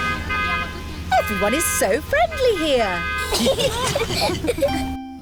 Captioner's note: honking; italians honk back; all giggling